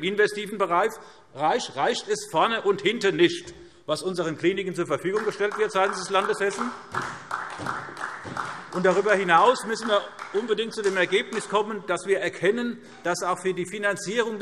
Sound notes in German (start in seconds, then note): 5.0 Beifall